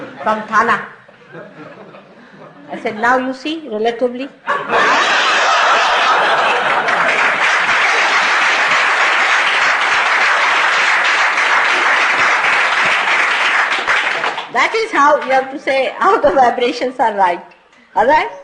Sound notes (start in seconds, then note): 6.5 laughter and applause